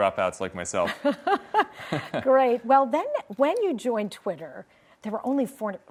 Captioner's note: laughs